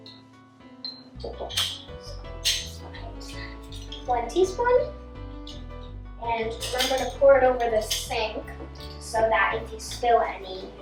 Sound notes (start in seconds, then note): 0.8 spoons clang